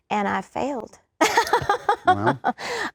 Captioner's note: laughs